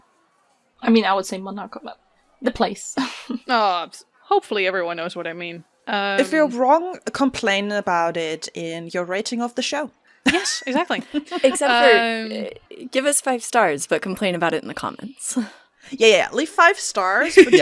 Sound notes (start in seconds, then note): 10.8 laughs